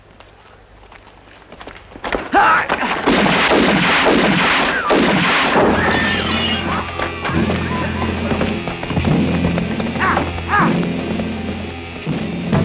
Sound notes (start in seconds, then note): 1.7 cries out; 1.7 gun firing; 4.9 dramatic music